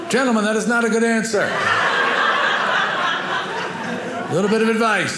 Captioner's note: audience laughing